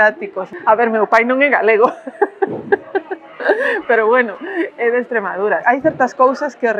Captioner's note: laughs